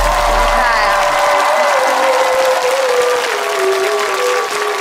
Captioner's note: crowd cheering